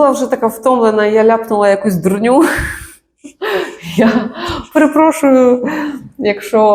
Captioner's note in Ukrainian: сміх